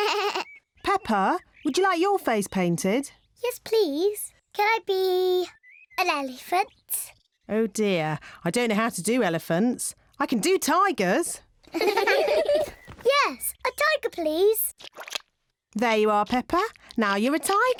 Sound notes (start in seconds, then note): 11.6 kids giggling